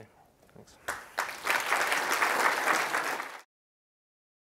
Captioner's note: applause